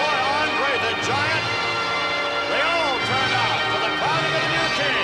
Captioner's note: crowd boos